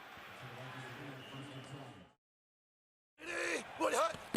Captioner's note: pa announcement